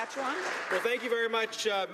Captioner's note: applause